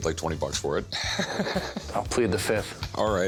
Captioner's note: laughs